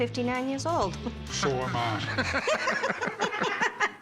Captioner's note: laughter